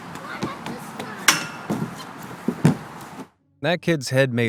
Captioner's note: head knocks loudly